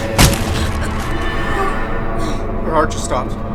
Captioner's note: grunting